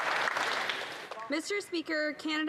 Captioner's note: some Applause